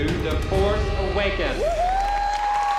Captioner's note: cheering; Abby whoops